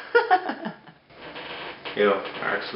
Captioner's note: laughs